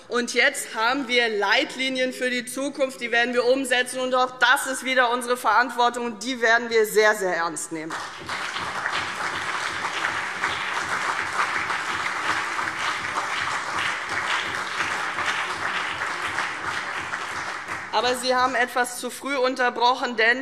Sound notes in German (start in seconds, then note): 7.9 Beifall CDU und BÜNDNIS 90/DIE GRÜNEN